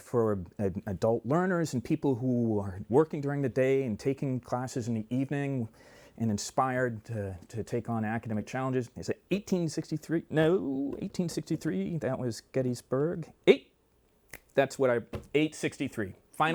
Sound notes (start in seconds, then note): 14.3 snaps fingers